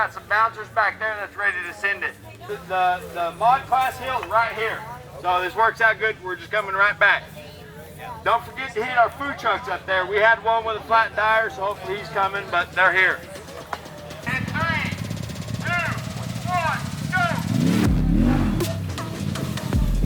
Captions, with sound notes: We got some bouncers back there that's ready to send it. This is the Mod Class hill right here. So this works out good, we're just coming right back. Don't forget to hit our food trucks up there. We had one with a flat tire, so hopefully he's coming, but they're here. In three, two, one, go! (engine revving)